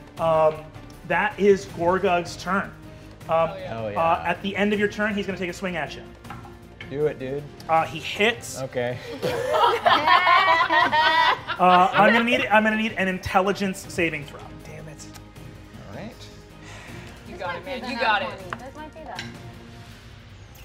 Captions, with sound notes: That is Gorgug's turn. - Oh yeah. - Hell yeah. - At the end of your turn, he's gonna take a swing at you. - Do it, dude. - He hits. - Okay. (players laughing) - I'm gonna need an Intelligence saving throw. - Dammit. Alright. - You got it, man. You got it. - This might be that.